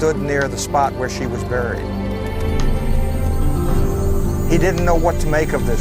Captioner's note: light humming